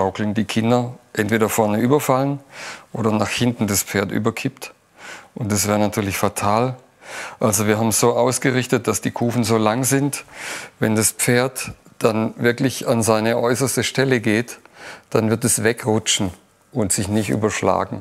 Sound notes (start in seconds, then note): none